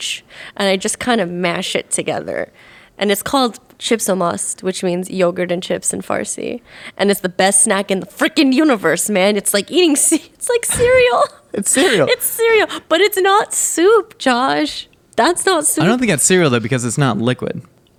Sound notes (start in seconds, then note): 3.2 speaking in a foreign language; 10.6 laughing